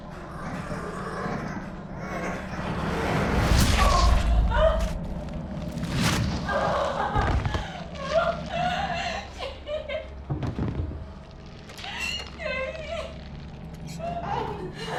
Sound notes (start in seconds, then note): 7.2 body falling to ground; 11.9 Sarah cries